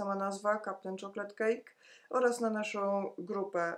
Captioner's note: polish speaking